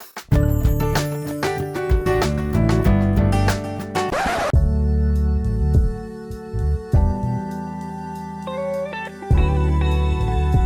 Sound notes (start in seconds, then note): 0.2 upbeat instrumental music; 4.1 record scratch; 4.5 neo-soul music